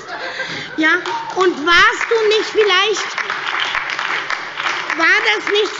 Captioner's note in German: Heiterkeit und Beifall bei der SPD und der LINKEN